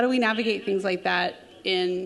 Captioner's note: announcement plays over loudspeaker